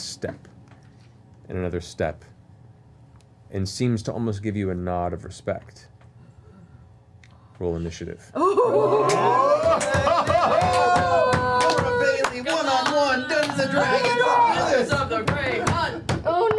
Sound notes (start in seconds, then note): 8.4 cheering, laughter